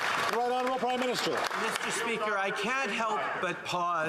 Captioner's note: some Applause